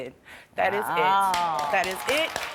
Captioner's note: Trisha groans; crowd applauds